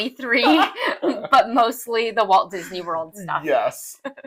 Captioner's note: laugh